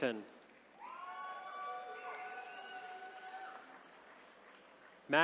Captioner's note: attendees cheering